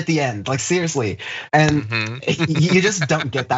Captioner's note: laugh